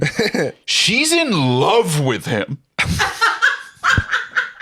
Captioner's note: laugh